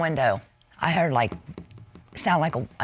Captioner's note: taps